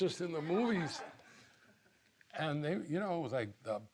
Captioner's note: audience laughing